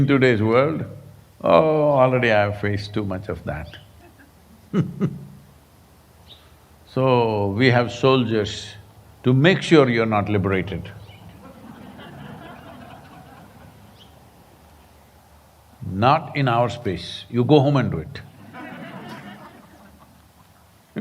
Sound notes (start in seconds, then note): 3.8 laughs; 14.1 laughter; 18.3 laughter